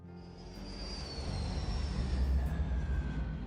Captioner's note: light Inspirational Music; airplane Noises; light Inspirational Music